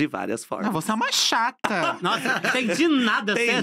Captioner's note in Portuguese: risos